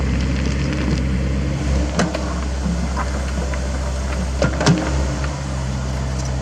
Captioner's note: rock clatter